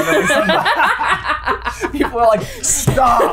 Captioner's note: everyone laughing